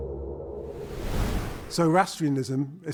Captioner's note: wind whooshing